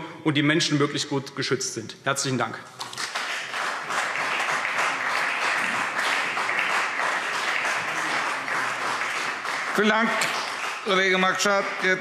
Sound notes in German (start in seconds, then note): 2.9 Beifall CDU und BÜNDNIS 90/DIE GRÜNEN